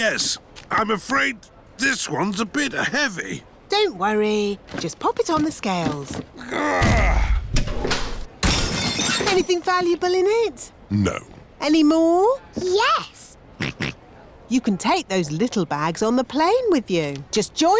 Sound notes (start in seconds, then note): 6.4 grunts; 8.5 crashes; 13.7 snorts